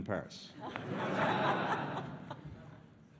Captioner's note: laughter